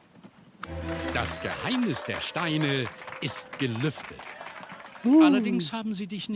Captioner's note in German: jubel